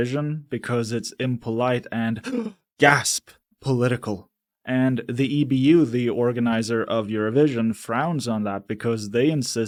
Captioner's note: gasp